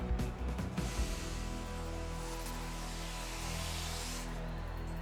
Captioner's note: air whooshing